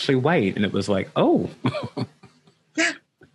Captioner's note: laughs lightly